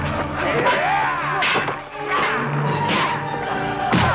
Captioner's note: raider growls